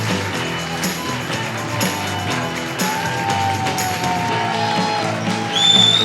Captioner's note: upbeat music continues; audience cheering continues